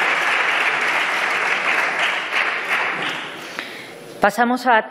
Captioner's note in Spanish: Aplausos